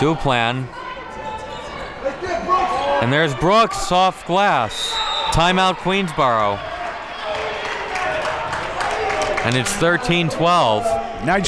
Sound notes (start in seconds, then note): 4.7 whistle blows